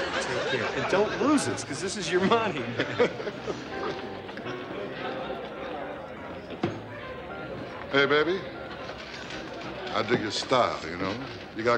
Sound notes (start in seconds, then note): 2.5 laughs; 3.8 light music playing